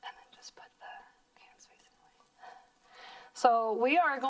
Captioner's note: whispering